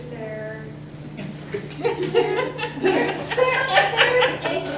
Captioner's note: everyone laughing